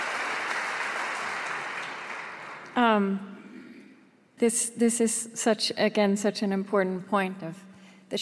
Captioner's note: applause